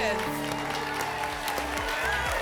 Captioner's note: applause and cheering